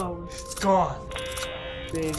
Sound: drawn out intercom tone

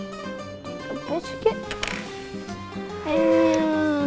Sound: plastic clatters

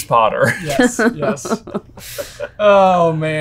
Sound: all laughing

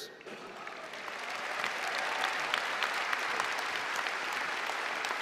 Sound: applause and cheering

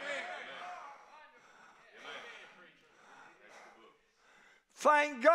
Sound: congregation shouts agreement

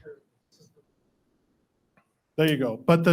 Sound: speaks faintly

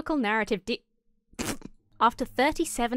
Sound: snorts

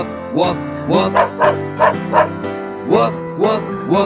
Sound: dog barking

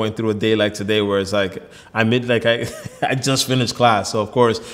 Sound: laughs

